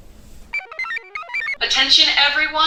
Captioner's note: computer chirps